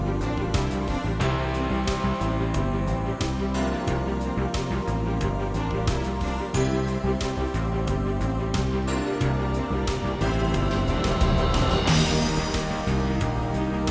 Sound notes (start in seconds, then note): none